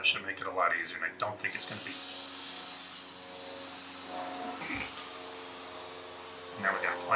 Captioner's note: loud whirring off camera